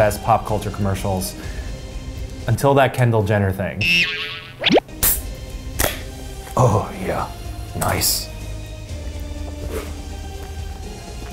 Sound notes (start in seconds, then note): 3.8 boing; 4.9 soda can pops